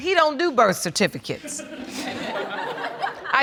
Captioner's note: audience laughing